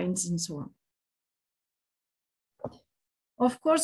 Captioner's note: silence